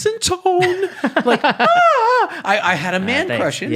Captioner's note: yells